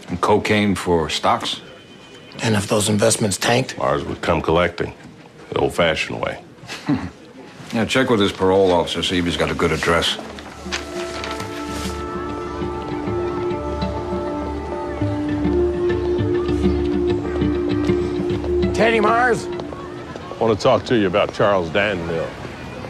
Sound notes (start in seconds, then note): 6.6 chuckles; 10.8 instrumental music